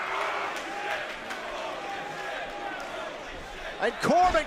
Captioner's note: fans chanting